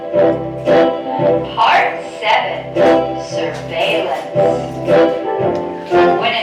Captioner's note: voiceover